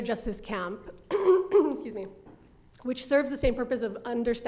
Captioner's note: coughs